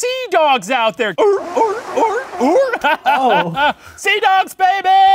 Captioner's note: laughing